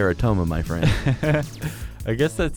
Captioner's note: laughs